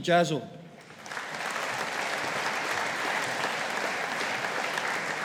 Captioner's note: audience applauding